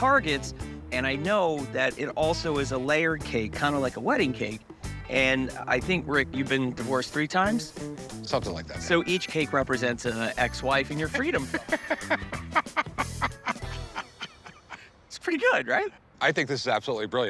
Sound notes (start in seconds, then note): 11.0 laughs